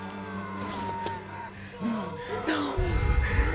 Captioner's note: pale woman shrieking